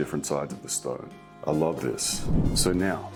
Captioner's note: image whooshes